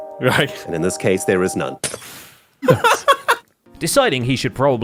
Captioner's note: breaks glass; laughs